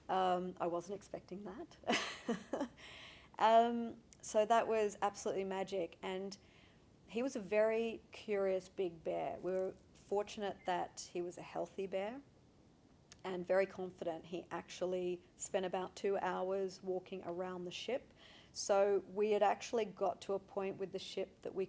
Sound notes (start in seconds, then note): 1.9 laughing